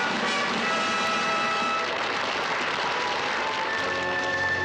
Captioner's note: triumphant fanfare music; audience applauds; elegant orchestral music